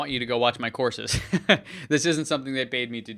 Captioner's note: laughing